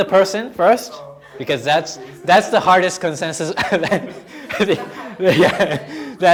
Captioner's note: laughing